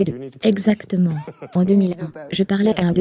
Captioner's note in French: des rires